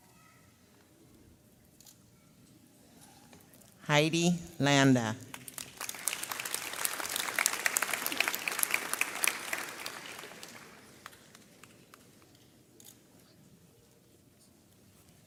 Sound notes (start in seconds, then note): 5.3 audience applauds; 12.8 camera clicks